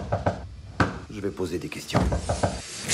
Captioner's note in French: toc-toc!